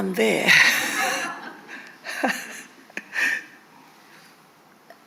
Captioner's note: attendees laughing